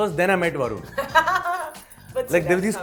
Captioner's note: laughing